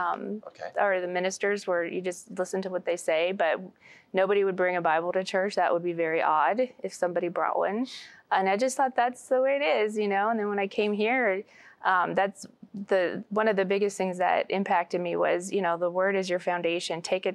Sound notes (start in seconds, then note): none